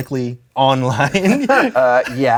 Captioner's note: both chuckle